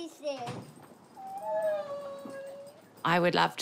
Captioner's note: high-pitched squealing